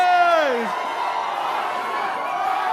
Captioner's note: audience cheering